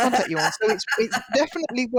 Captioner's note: laughter